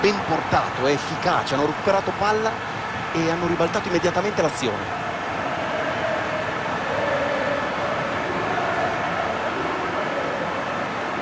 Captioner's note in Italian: Applauso